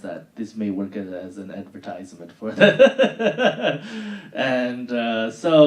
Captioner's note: laughing